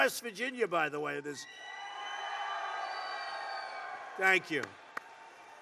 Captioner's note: applause